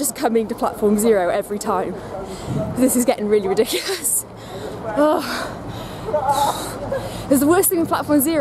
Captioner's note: sigh